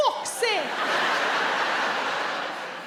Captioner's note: audience laughs